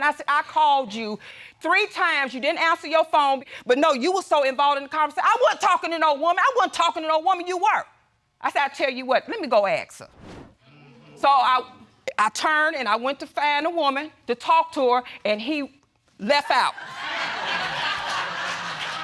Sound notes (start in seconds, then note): 16.8 audience laughing